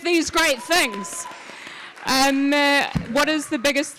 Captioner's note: audience claps